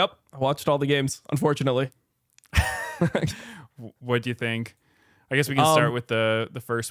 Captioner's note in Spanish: risas